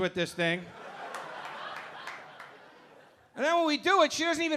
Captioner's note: audience laughing